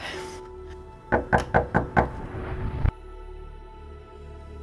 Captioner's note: knocking